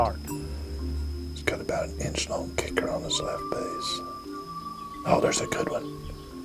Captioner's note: whispering